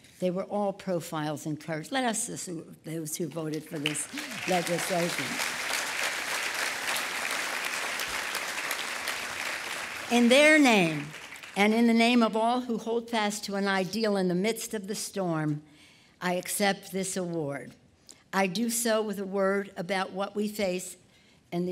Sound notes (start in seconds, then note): 3.7 applause